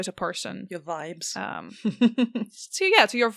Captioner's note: laughs